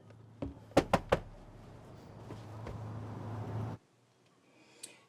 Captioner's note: knocking on door